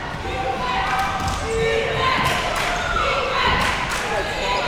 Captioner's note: crowd chanting defense